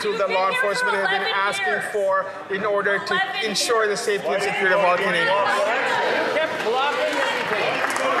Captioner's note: some Applause